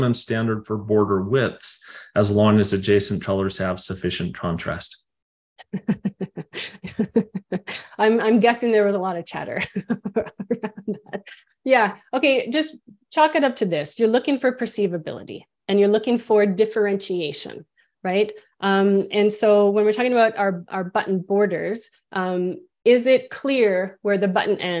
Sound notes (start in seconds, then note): 6.5 laughs